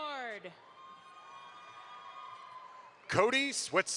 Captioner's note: audience applauds